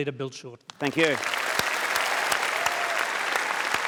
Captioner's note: applause